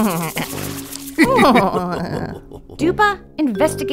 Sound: The Helios laughing; water splashing

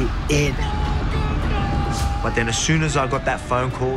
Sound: Volkanovski yelling

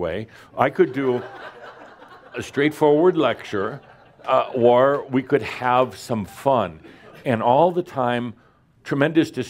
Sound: laughter

